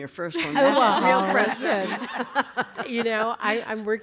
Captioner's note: laughter